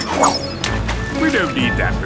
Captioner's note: splashes